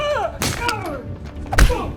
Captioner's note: wham